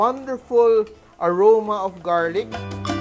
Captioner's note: sizzle